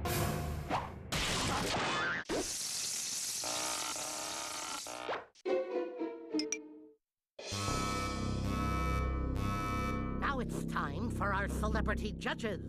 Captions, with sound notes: [sizzling] [beeping] NOW IT'S TIME FOR OUR CELEBRITY JUDGES